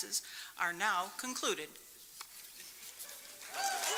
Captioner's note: applause